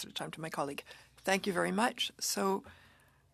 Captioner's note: speaking French